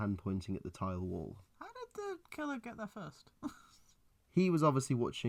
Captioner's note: confused laugh